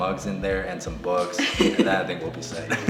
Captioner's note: chuckles